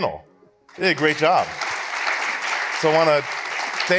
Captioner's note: audience applauds